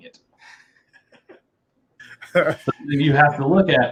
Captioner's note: laughter